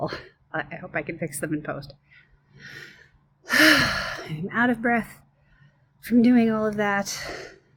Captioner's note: sighs